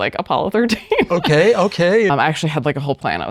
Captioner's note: laughs